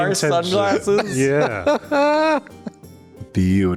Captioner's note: laughter slowly dies down